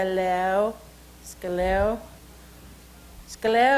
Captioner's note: speaks Salish